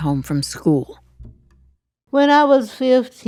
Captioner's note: soundbite of archived recording